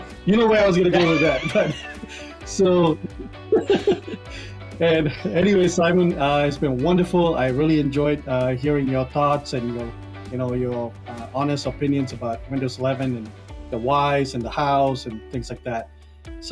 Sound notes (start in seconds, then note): 0.8 laughs; 0.8 both laughing